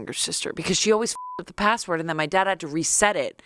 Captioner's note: beep